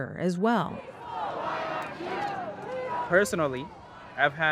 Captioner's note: people protesting